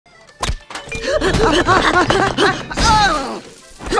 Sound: panting

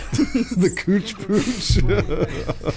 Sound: giggles

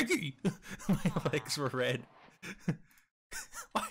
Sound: laughs

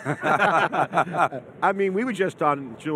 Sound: all men laugh

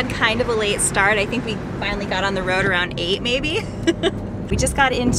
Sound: laughing

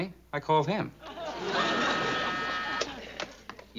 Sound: buzz

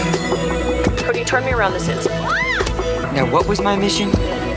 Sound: screams

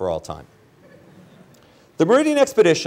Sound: laughter

